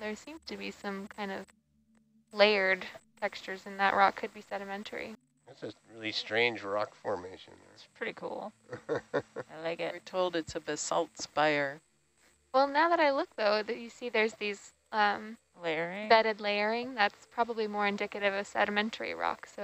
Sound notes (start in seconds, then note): 6.0 male Voice